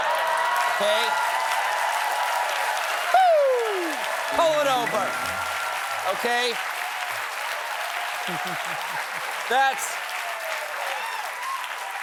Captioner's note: cheers and applause